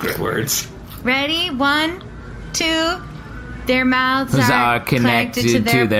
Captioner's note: chanting